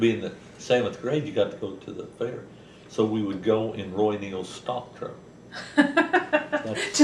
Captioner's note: laughter